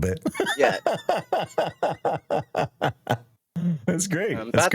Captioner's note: laughter